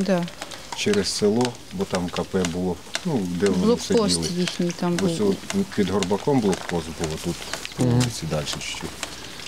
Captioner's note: russian